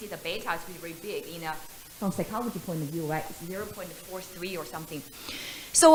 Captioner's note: voice becomes mumbled